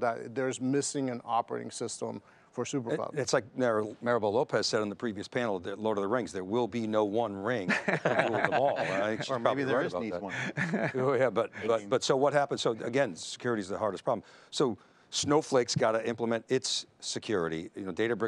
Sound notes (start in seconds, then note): 10.5 men talking